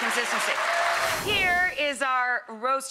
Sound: crowd cheering

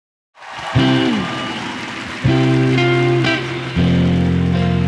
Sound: audience cheering

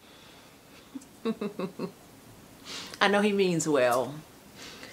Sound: laughing

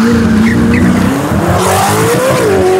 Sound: tires Screeching

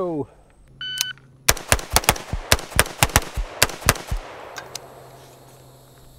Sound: timer beeps; rifling firing

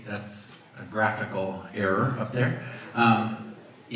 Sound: none

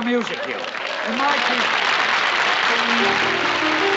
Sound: applause; piano playing

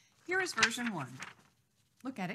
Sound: paper rustling

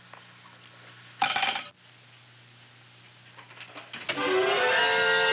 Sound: clattering; door clattering; dramatic music

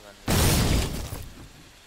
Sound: boom

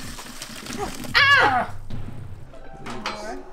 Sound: water pouring; screaming

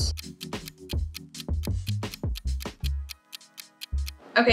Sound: clock ticking

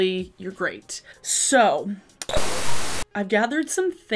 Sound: static hisses

